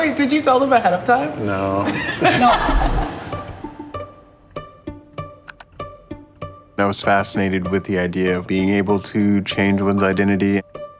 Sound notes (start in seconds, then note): 1.8 laugh; 2.4 playful music